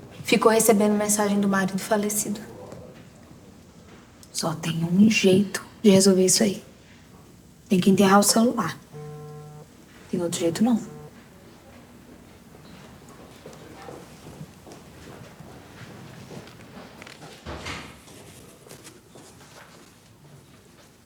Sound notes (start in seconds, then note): 8.8 notification; 13.5 footsteps in the background; 17.4 door closing